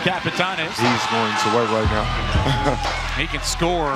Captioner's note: chuckles